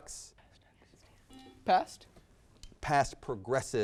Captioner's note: buzzer beeps